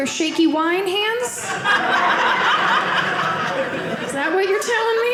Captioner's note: audience laughing